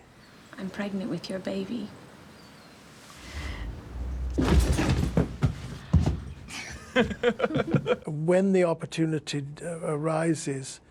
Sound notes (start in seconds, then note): 3.2 thud; 3.8 laughs